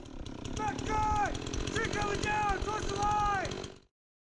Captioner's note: man yelling